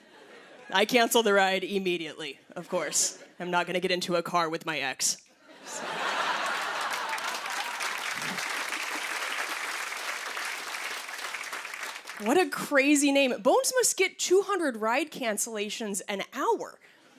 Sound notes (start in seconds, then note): 5.6 laughter and applause